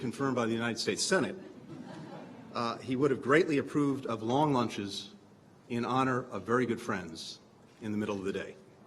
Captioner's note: laughter